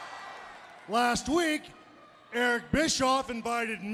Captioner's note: applause